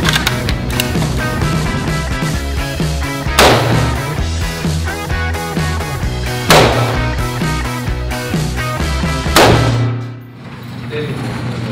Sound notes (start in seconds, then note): 3.6 gun firing; 9.3 gun firing